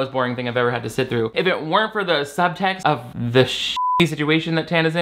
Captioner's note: beep